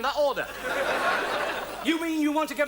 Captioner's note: audience laughs